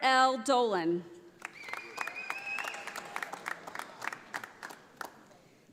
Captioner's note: audience applauding